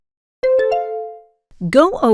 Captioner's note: bell ding